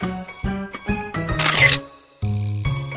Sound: shutter sound

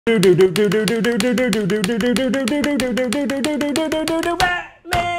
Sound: maniac batman intro noises

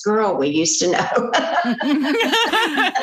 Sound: laughter

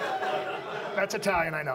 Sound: audience laughs

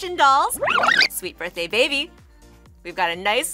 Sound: tape rewinds

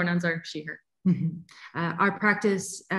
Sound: chuckles

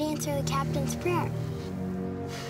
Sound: exhale

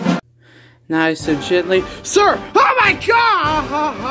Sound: out of breath

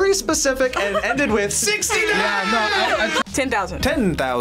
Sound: air horns blaring

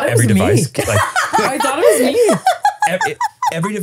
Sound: laughing

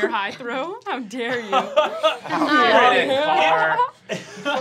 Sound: laughing

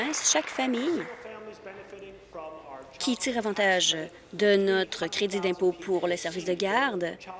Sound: applause

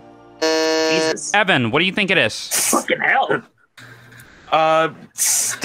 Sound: buzzes

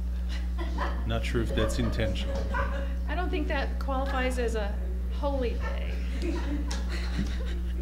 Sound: laughter

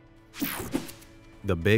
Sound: logo whooshing

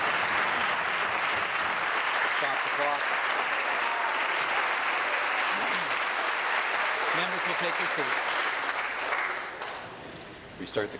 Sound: applause

